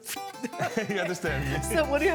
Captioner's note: laughter